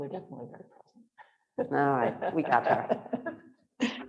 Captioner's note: laughing